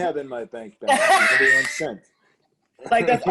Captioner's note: laughter